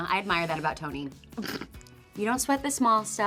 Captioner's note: Toni chuckles